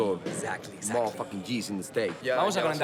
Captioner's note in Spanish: habla en inglés